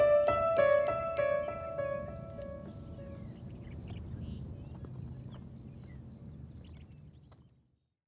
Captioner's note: birds chirping wind rustling